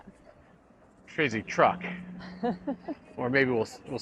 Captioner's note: chuckles